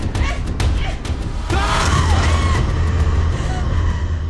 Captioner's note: screaming